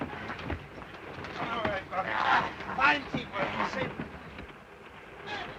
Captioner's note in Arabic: يصرخ دوبو متألمًا; صوت خشخشة القطار; صوت صراع